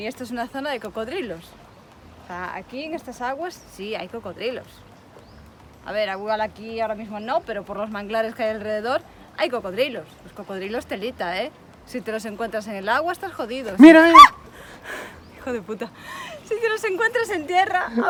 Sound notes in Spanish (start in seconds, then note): 13.8 Susto y grito